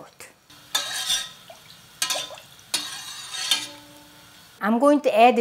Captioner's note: utensil clanking; broth burbling